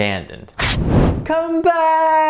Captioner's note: flame igniting